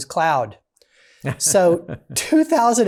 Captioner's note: laughs